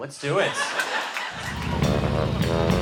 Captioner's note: laughter